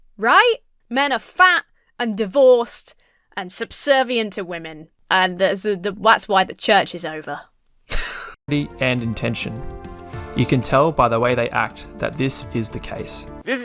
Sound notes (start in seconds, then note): 7.9 wheezes